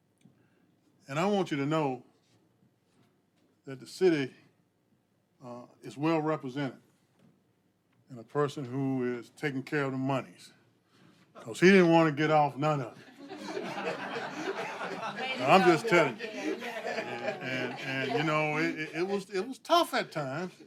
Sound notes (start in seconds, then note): 18.0 laughter